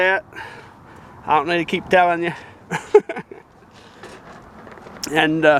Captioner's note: laugh